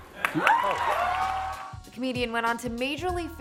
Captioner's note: audience applauds and cheers